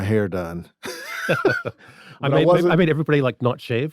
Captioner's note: everyone laughs